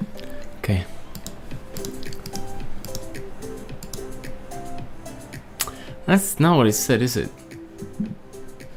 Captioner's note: clicking mouse